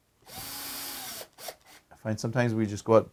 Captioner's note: drilling